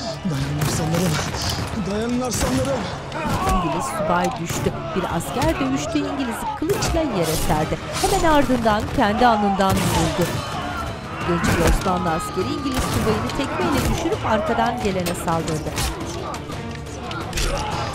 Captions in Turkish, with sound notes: Dayanın aslanlarım, dayanın aslanlarım! (Dövüş sesleri) (Silah sesleri) (Dövüş sesleri)